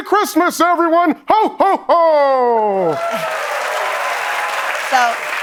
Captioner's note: applause